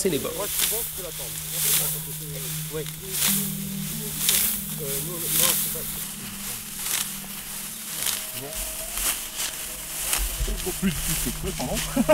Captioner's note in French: bruit du blé qu'on écrase